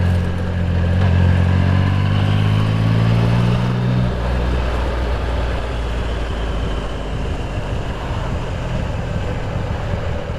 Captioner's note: engine Noise